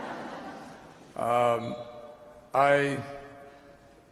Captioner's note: laughter